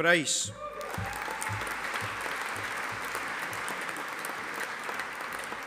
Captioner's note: audience applauding